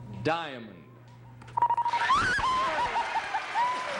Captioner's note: cheers and applause